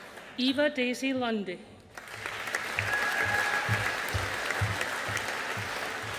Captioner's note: audience applauding